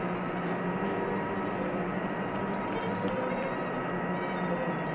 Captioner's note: machinery humming